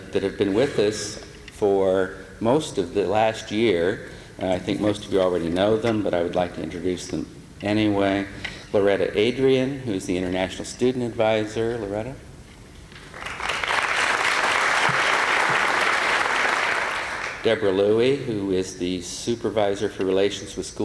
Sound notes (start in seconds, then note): 13.0 applause